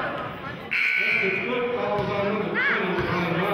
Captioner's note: buzzer sounding